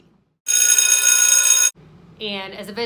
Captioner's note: bell rings